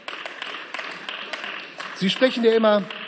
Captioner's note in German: Beifall